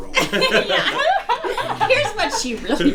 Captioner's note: everyone laughs